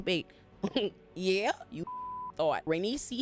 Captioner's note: beep